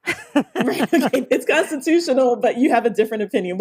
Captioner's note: laughs